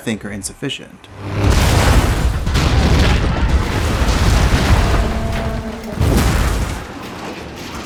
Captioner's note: crash